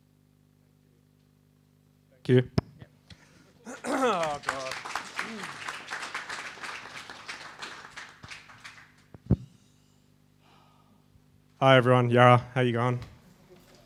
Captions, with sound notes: - Thank you. (audience clapping) Hi everyone, yurra, how you going?